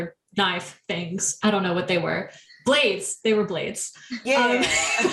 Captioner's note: wheeze